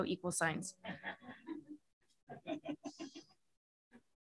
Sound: laughter

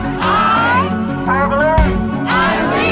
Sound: crowd clapping to beat

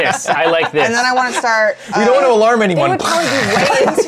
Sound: hisses

